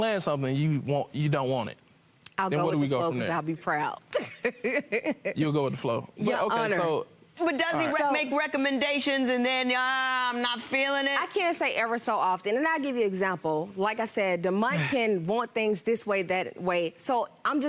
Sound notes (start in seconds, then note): 4.2 laughs